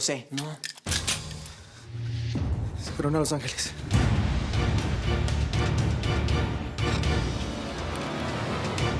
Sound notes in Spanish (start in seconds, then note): 0.3 Ruido al cargar el arma